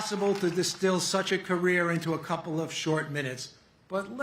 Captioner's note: cheers and applause